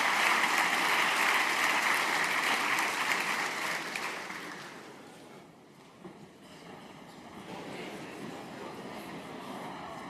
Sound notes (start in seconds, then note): 3.8 applause